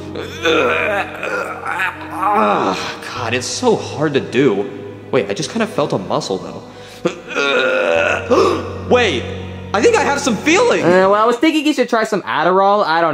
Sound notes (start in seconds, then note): 0.1 Mario grunting; 7.1 Mario grunting; 8.3 Mario gasping